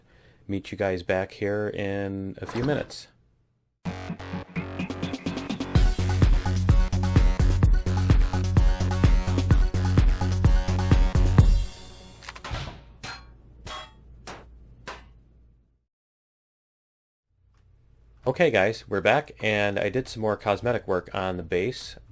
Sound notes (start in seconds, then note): 3.8 fast-paced music; 11.9 music stops; 11.9 pinging; 12.2 weapon switching